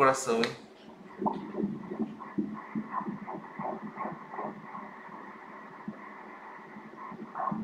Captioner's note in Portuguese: batimentos cardíacos